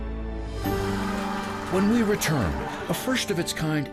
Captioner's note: group cheering